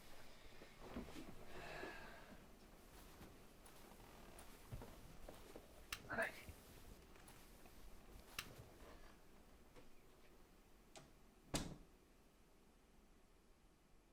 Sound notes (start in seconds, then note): 1.5 Jim sighing; 11.5 door clicking